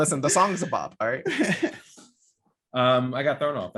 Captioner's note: laughing